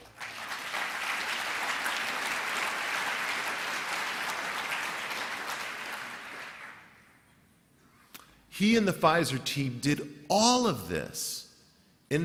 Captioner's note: applause